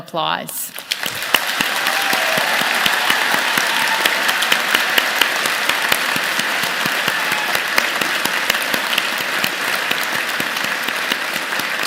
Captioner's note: applause